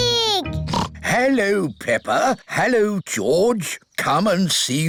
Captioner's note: oinks